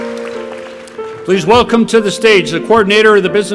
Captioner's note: applause